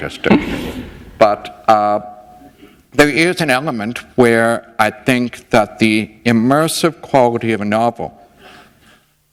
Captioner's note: laughter